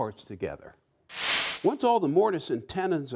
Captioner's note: whooshing